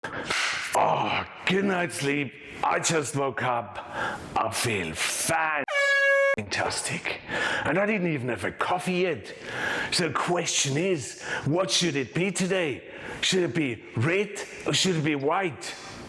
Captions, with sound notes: - (clapping) Oh, good night's sleep. I just woke up. I feel fan(beeping)tastic, and I didn't even have a coffee yet. So the question is, what should it be today? Should it be red or should it be white?